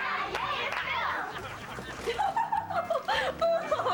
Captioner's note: chuckles